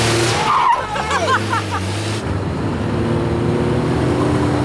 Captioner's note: tires screech